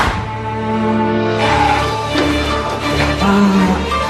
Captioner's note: bang